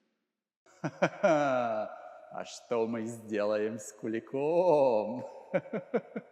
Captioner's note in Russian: зловещий смех